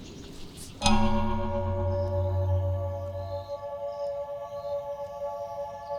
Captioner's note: A clock chimes as music begins